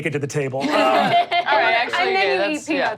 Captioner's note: audience laughs